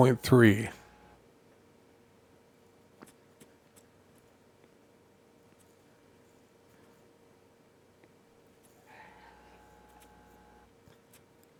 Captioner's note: silence